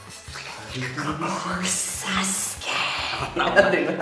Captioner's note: creepy Orochimaru voices